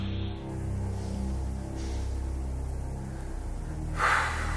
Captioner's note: sighs